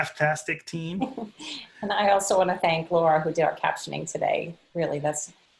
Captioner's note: laughing